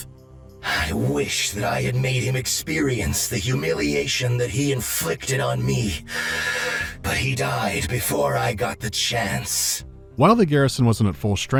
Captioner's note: deep cyber-inhale